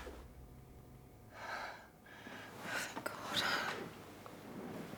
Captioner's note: Natalie breathing heavily